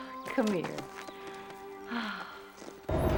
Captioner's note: sighs